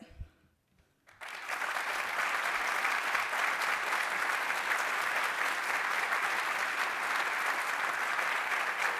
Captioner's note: applause